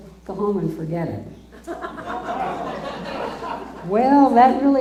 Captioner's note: laughter